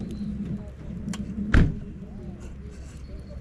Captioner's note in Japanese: ドアの音